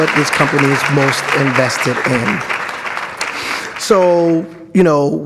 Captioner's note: audience applauds